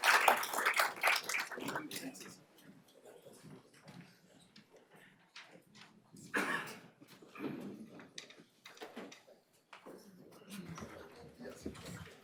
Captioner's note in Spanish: aplausos